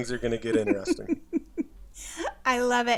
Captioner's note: chuckles